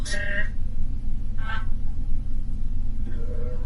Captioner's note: EVP warbles